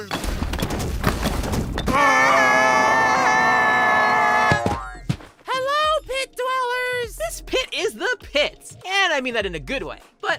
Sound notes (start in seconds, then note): 1.9 both scream